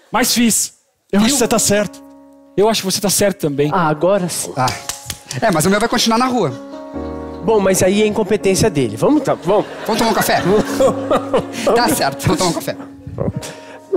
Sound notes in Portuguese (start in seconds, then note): 4.7 palmas